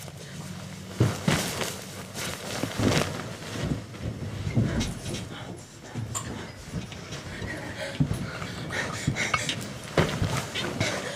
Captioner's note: commotion